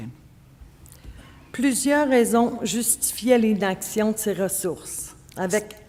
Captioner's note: speaking French